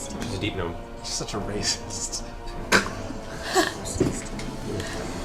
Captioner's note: laughs